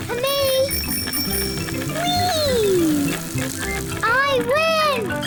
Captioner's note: rings bell; snorts